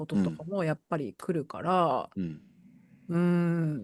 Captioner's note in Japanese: 咳払い